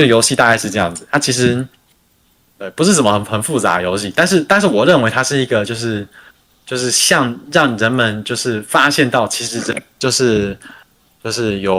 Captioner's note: non-english speech